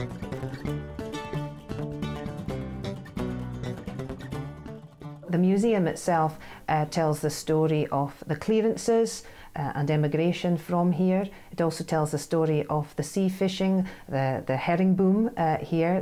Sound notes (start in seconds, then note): 2.2 voiceover